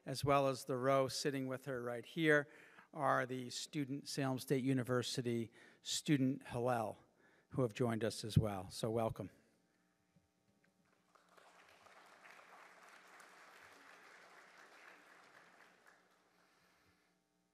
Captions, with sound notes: as well as the row sitting with her right here are the student Salem State University student Hillel, who have joined us as well. So welcome. (audience applauding)